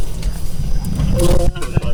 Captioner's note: radio chatter